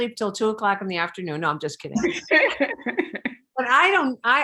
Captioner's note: laughing